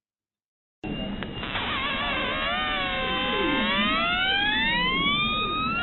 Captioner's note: sea ice vibrating sounds